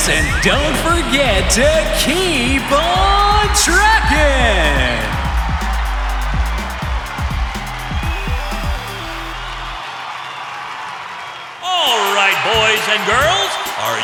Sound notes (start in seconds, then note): 5.6 cheerful upbeat music; 5.6 cheering